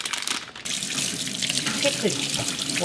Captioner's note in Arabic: صنبور المياه الجارية